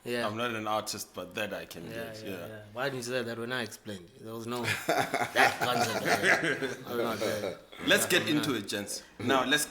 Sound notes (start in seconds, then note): 4.7 laughs